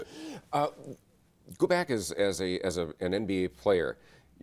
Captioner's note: laughs